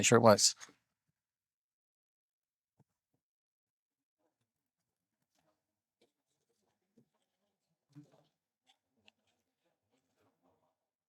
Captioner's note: silence